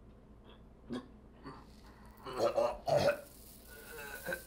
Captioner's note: vomiting